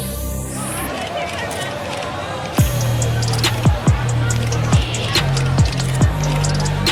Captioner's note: all chattering; camera shutter clicking